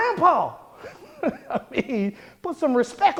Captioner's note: laughing